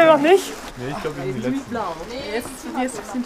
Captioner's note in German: Stimmengewirr